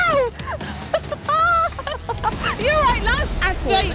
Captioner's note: both laughing